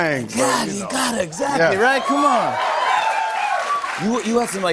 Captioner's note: cheers and applause